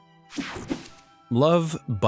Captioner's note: logo whooshing